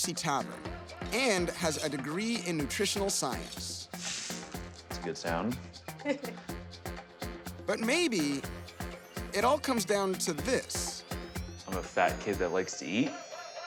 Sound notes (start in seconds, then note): 3.8 sizzling; 5.9 laughing